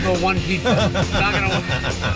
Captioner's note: laughs